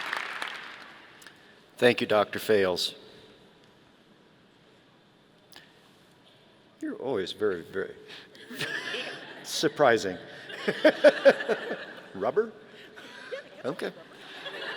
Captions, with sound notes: - Thank you, Dr. Fails. You're always very, very, (laughing) surprising, (laughing) rubber? Okay.